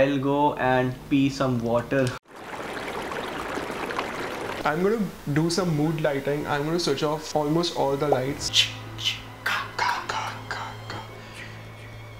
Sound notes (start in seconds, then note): 2.2 water flowing